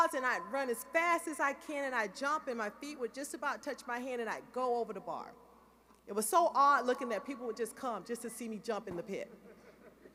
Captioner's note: laughter